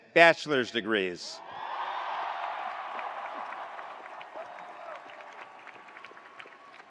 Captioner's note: attendees cheering; attendees applauding